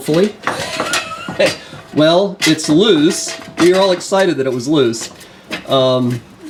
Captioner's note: chuckle